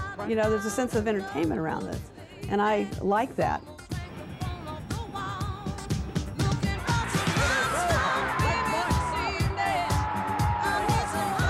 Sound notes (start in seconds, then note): 3.9 crowd noise, cheers, music; 10.1 audience cheers, music